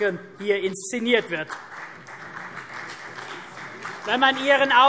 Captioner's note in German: Beifall